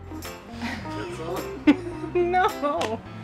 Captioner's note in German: Gelächter